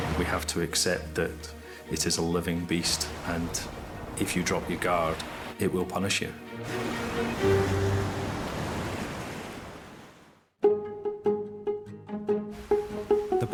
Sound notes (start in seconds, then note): 8.4 waves crashing in; 10.6 upbeat plucky music